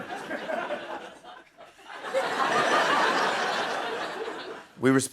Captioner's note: laughter